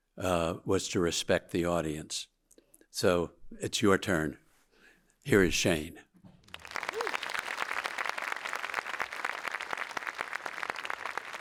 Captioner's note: audience applauding